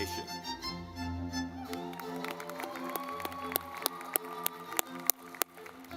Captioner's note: lively music; audience clapping